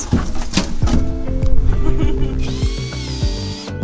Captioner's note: laughs